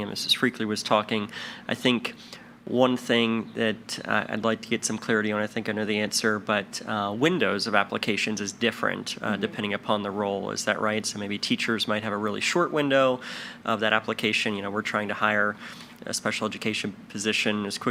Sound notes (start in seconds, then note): none